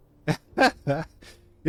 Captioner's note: laughs